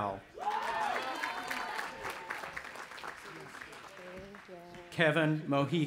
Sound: audience applauding and cheering

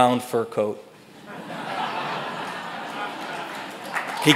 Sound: audience laughs

